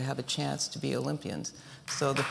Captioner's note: applause